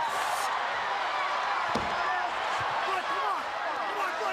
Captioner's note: crowd exclaiming